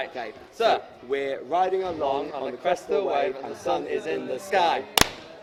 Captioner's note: clap